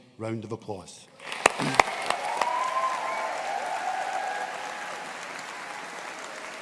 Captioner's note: audience cheering and applauding